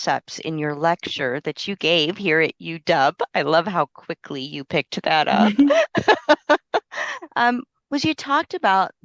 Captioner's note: laughter